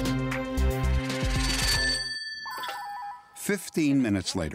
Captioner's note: telephone ringing